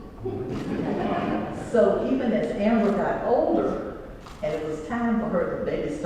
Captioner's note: laugh